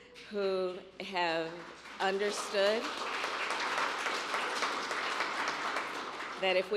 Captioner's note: applause